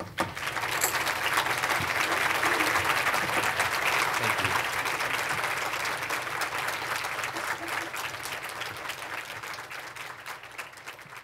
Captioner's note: applause